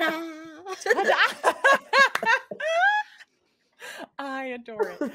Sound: group laughing

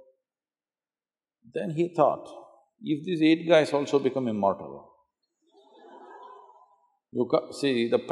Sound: laughter

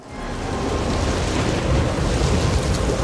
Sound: wind blowing, thundering

